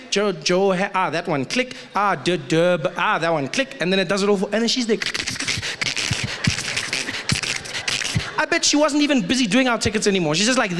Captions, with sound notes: Johan, okay that one. Click. Ah, Durb. Ah, that one, click. and then it does it all. She's there *Typing Frantically* I bet she wasn’t even busy doing our tickets anymore, she's just like there